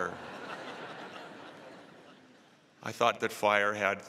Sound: laughter

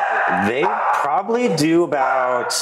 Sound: dog barking

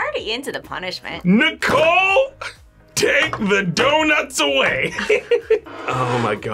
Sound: laughs

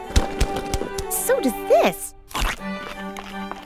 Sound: munching

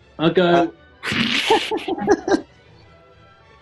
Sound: laughter

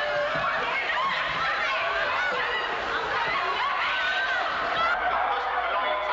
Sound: frantic yelling

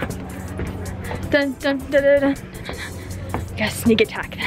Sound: humming

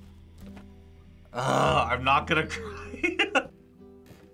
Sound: laughs

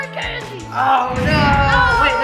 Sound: yells

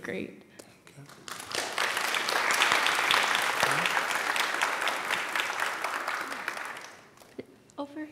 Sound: applause

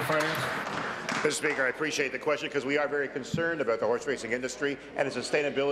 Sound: applause

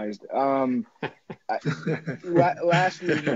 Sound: Regents laughing

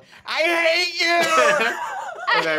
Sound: laughing

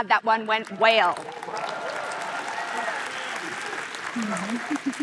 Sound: applause

